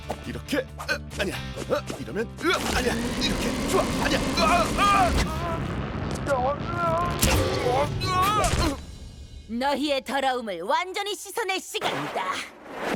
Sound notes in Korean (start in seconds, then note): 2.4 신음 소리; 3.6 비명 소리; 7.2 랄프 신음 소리